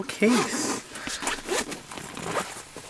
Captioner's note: zipper zipping